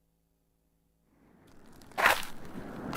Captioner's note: wind blowing; steps in the snow